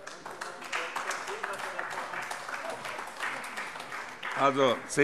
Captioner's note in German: Beifall AfD und CDU